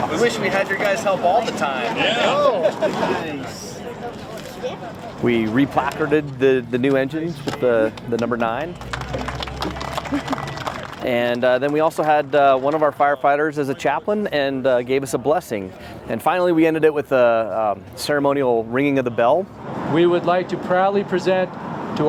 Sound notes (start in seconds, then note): 7.9 clapping